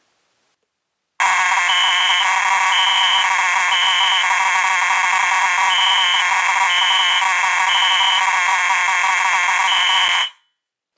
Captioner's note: continuous, rattling electric horn with simultaneous code 3 beeping